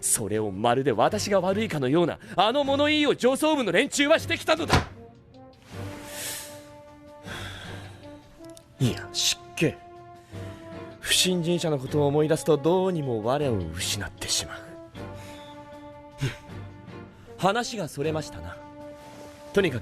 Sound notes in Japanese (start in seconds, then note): 4.7 机に何かをたたきつける音; 7.2 深呼吸